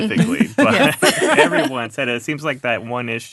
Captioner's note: laughing